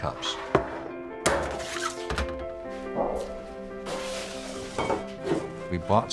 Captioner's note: metal being cut